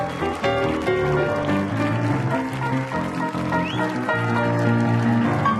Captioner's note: applause and cheering